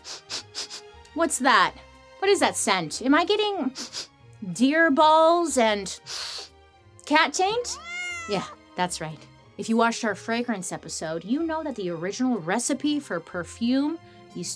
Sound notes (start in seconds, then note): 0.0 sniffs; 3.7 sniffs; 7.7 cat meows